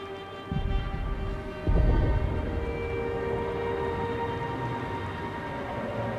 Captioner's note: pensive music; thunder rumbling